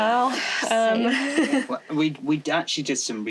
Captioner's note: laughter